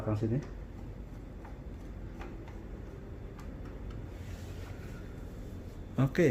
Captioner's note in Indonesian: suara obeng